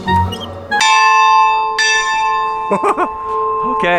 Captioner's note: upbeat music; bell rings